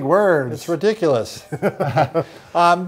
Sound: both chuckle

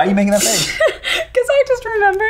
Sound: laughing

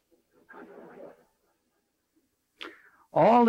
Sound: audience laughing

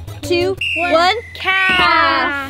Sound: whistle blows

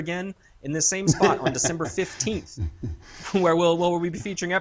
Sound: laugh

